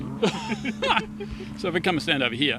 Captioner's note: laughing